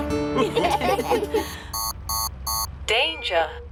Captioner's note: laughter; beeping